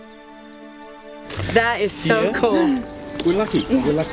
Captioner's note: laughs